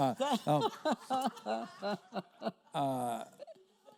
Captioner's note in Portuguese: risos da plateia